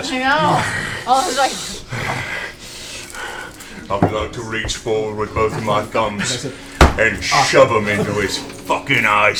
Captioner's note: growls